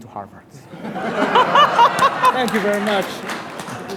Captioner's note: laughing